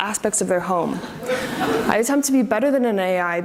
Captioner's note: audience laughs